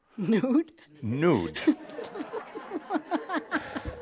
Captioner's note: laughter